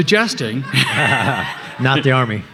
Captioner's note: everybody laughing